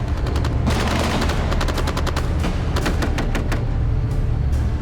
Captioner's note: rapid gunfire